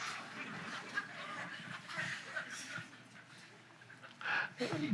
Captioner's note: audience laughs